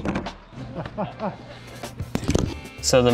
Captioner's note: chuckling